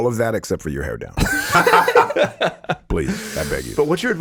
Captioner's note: all laughing